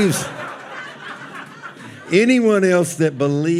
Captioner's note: audience laughing